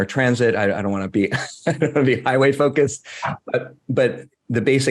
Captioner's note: laughs